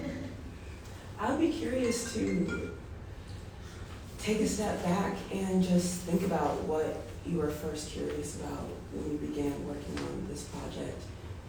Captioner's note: cell phone rings